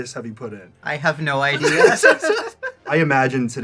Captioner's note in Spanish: risas